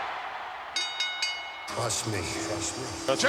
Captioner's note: bell ringing